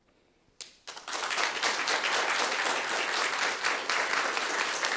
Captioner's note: audience applauds